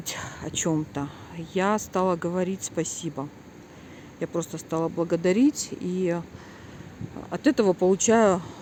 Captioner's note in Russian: вздыхает; тяжело вздыхает